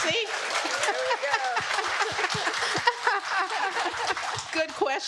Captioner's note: laughter